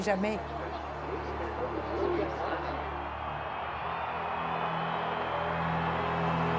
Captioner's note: crowd cheering; tense pensive music